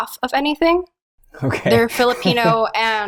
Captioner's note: chuckles